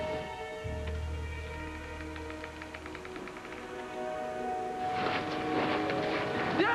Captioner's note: branches creaking